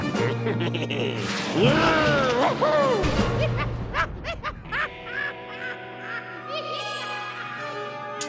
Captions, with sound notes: OOH, WHOO-HOO! (laughing)